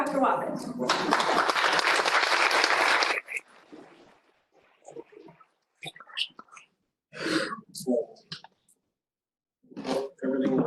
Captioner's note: applause